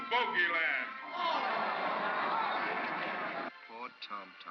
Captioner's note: crowd gasps & murmurs